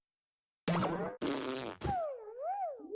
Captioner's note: choking